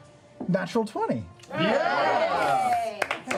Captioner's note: cheering